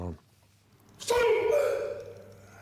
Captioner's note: grunting